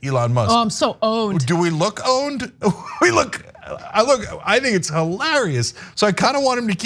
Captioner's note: laugh